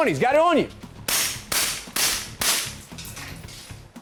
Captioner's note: gunshots